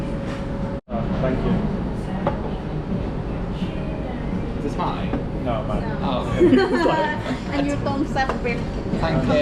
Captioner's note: all laugh